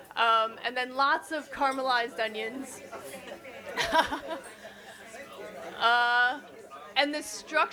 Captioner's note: dining chatter; chuckles; more chatter